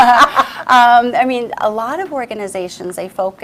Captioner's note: laughs